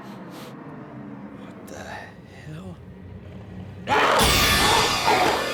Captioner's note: sniffs; zombie growling